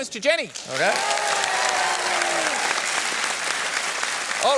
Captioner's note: cheering and applause